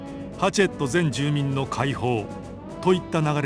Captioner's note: none